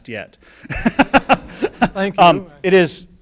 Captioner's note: laughing